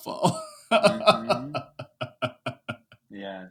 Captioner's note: laughing